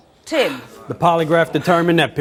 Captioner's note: exhales loudly